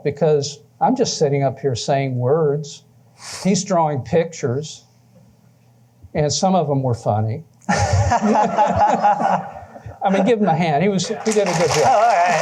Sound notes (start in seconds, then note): 7.6 laughter; 11.1 applause